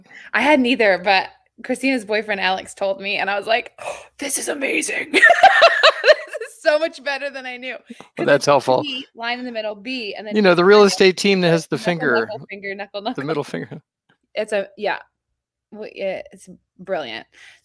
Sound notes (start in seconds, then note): 5.2 laughs